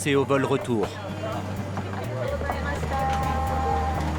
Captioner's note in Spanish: hablando en japonés